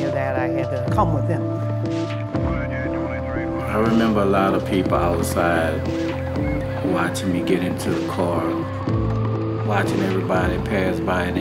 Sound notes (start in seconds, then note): 2.3 police radio chatters